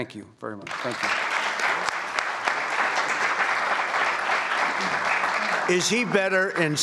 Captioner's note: applause